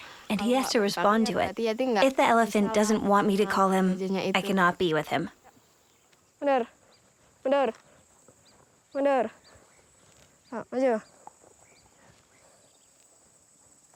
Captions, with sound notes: and he has to respond to it. If the elephant doesn't want me to call him, I cannot be with him. (speaking in foreign language)